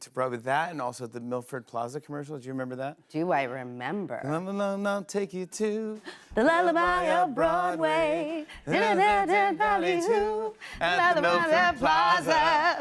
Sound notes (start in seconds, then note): 8.6 both vocalizing